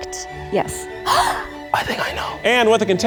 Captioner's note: gasps